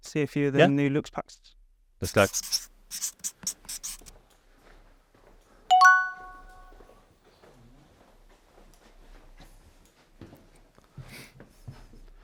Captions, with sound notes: see a few of the new Luxpacks, - Let's go. (pen scratching) (bell pings)